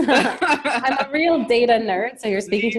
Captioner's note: both laughing